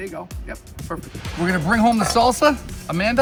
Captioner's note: air whooshing